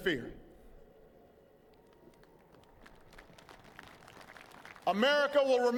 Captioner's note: applause